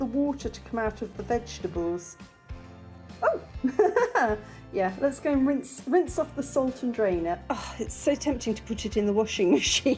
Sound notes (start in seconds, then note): 3.7 laughing